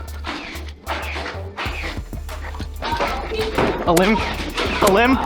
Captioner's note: motors revving and blasters thunking; blasters thunking with indistinct talking